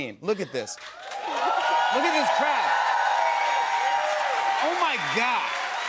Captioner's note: cheers and applause